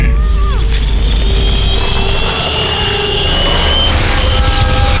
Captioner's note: roaring